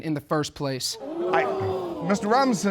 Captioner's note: audience groans